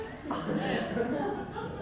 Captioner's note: laughs and giggles